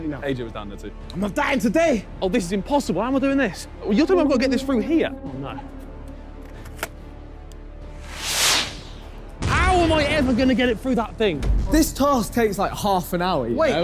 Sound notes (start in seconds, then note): none